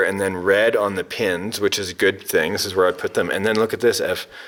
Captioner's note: none